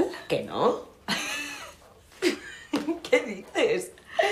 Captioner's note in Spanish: Risas